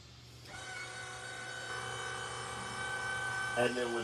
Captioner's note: seat motor running